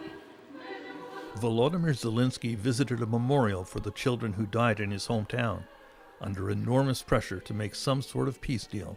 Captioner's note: speaking ukrainian language